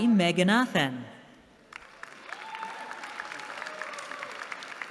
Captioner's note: applause